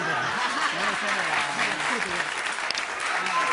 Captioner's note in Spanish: Risas